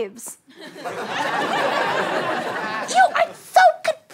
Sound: audience laughter

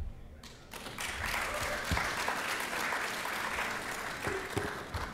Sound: applause

